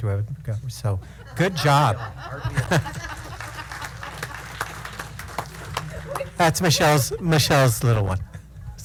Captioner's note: applause